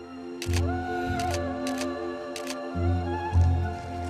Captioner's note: camera clicks